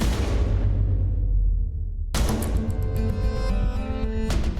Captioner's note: long gun fires; dramatic music